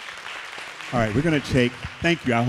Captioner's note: applause